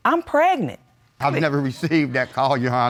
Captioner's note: chuckling